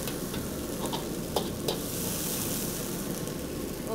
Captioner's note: liquid sizzles